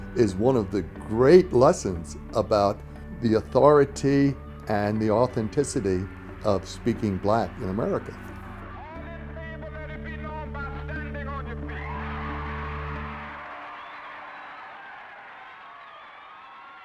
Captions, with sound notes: is one of the great lessons about the authority and the authenticity of speaking black in America. - All in favor, let it be known by standing on your feet. (crowd cheering)